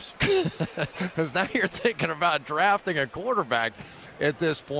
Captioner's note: laughs